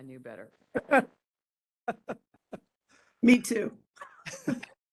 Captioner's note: laughing